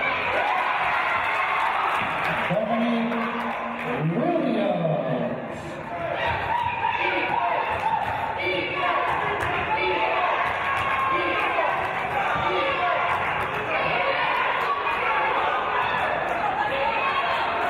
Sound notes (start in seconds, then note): 0.0 cheering; 8.5 audience chanting "Defense!"